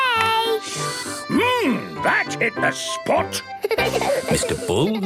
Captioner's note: slurping; giggling